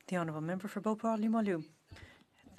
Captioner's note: speaking French